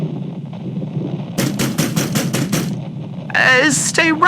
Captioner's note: knocking again fx